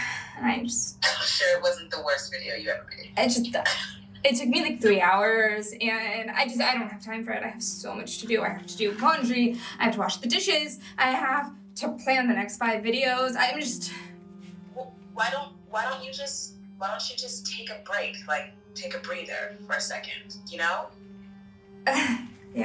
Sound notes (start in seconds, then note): 1.2 on phone; 14.7 on phone